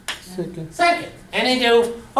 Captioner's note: voiceover